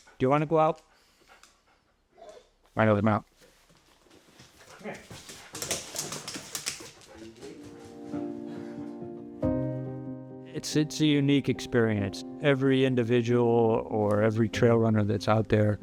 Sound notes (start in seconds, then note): 3.4 paws scamper on floor